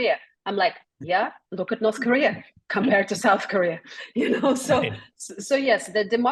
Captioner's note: laugh